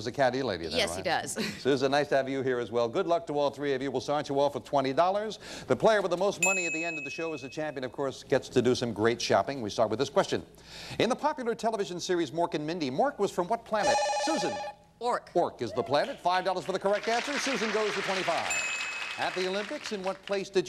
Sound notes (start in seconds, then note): 13.8 bell rings